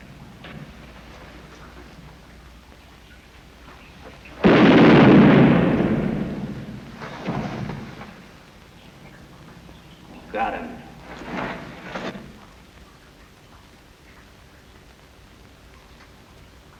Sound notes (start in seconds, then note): 4.3 gunshot